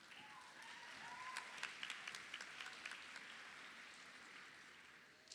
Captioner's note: crowd claps